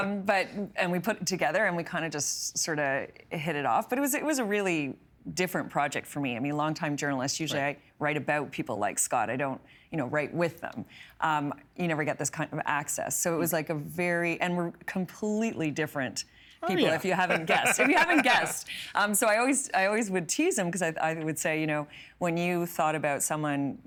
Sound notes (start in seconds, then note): 16.7 laughing